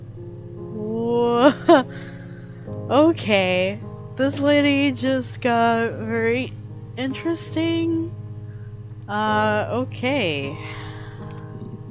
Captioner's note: laughs